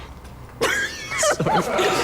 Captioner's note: both laughing